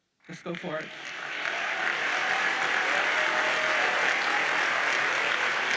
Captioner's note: audience cheers and applauds